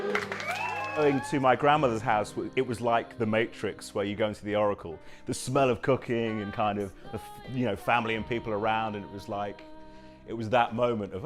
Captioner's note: applause and cheering